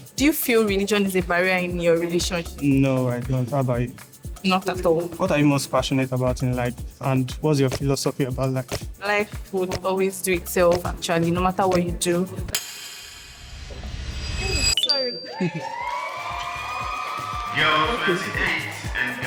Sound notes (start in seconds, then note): 15.3 cheering